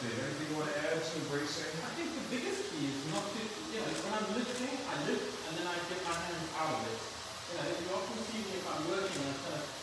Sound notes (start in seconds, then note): 6.0 blow dryer revving